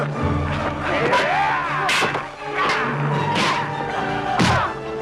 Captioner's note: raider growls